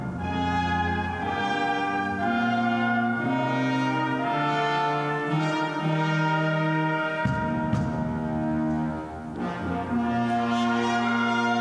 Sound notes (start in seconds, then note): none